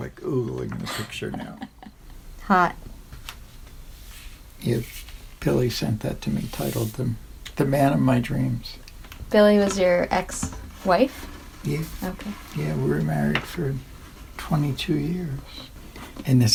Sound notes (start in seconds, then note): 0.8 chuckles